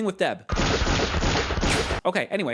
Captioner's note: gunshots and yells